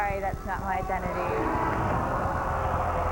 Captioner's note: audience groans